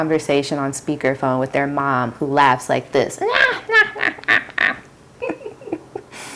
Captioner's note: theatrical laughter